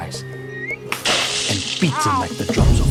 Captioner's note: splash!